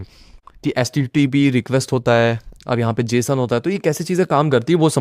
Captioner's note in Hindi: नाक से की जाने वाली आवाज़